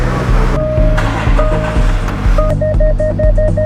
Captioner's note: car beeping